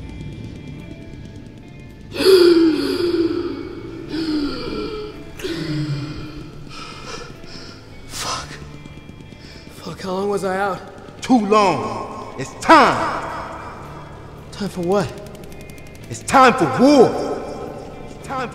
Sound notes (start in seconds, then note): 2.0 gasping